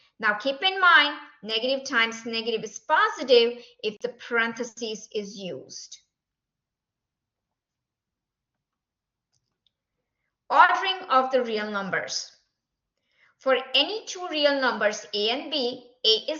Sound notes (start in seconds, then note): 6.1 silence